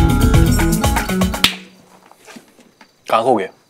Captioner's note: Snaps fingers